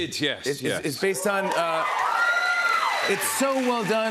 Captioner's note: cheers and applause